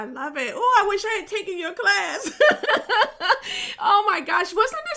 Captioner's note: chuckles happily